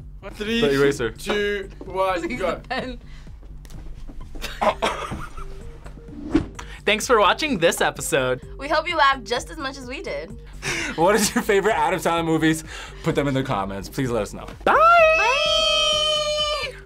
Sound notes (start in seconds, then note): 4.4 both laugh; 4.4 laughs